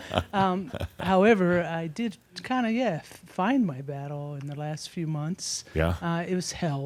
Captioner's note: some chuckles; they chuckle